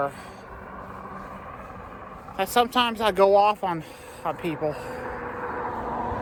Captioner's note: none